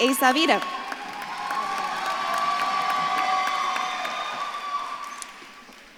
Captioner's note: audience claps and cheers